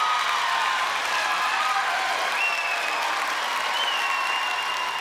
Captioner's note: cheers and applause